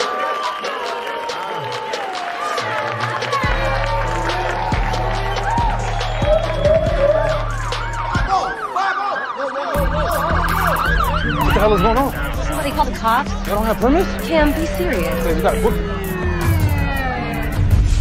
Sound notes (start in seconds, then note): 7.3 distant siren whooping